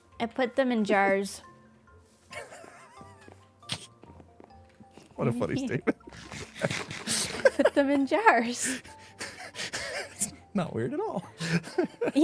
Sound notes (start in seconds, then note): 2.3 laughs; 5.8 laughs; 9.2 laughs